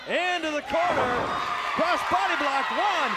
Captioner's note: audience cheers